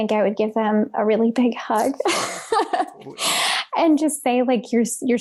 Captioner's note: laughs